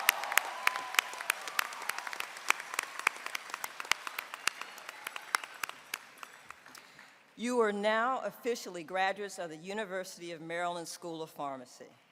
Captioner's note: applause